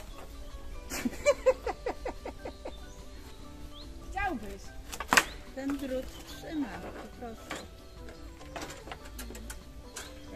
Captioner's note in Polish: śmiech